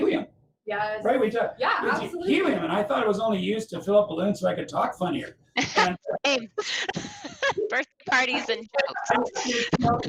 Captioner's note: laughter